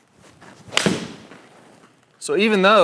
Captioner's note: swing whoosh